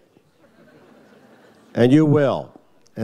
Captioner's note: audience laughs